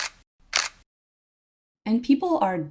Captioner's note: camera shutter clicking